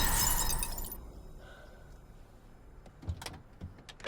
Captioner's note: tires screech; breathes deeply